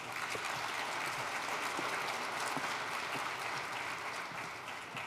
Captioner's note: applause